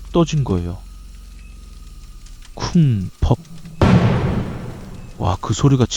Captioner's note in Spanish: ¡Thud!